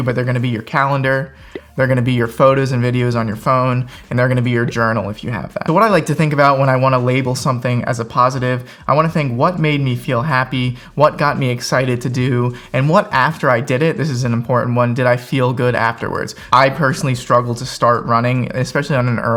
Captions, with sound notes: but they're gonna be your calendar. (graphics pop) They're gonna be your photos and videos on your phone, and they're gonna be your journal if you have that. So, what I like to think about when I wanna label something as a positive, I wanna think, what made me feel happy? What got me excited to do, and what, after I did it, this is an important one, did I feel good afterwards? I personally struggled to start running, especially on an